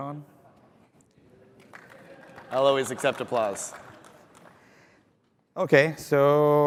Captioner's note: applause